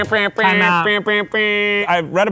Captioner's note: making air horn sound